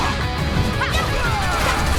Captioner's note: dramatic music; character growling